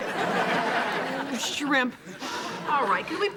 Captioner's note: audience laughing